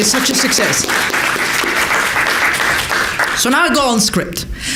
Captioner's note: applause